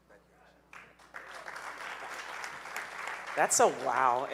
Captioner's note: audience cheering